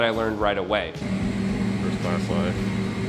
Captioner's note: airplane humming